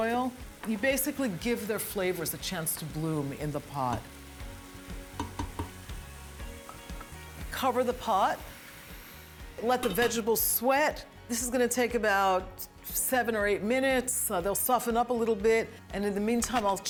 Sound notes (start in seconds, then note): 5.1 tapping